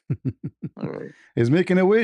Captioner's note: ketawa